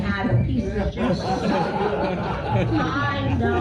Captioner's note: audience laughter